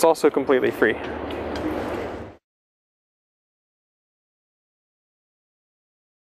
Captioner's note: pause